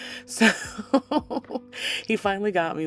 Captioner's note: laughs